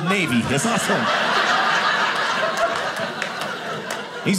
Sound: audience laughing

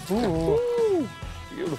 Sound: lure rattling

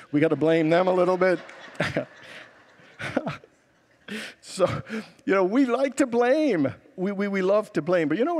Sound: laughs with congregants

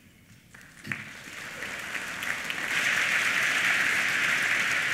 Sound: applause

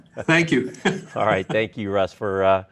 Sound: laughs

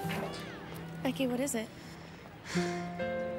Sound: sighs

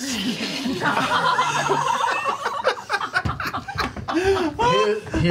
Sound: all laugh

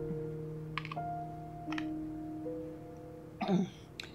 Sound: crunching

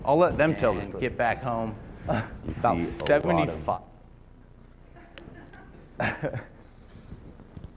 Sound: laughter

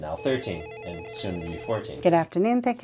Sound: phone ringing

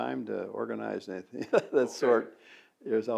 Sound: laughs

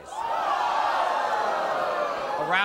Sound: audience gasps

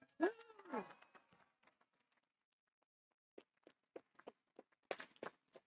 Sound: audience applauding

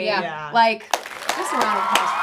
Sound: all applauding

